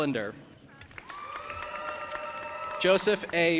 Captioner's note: audience applauding and cheering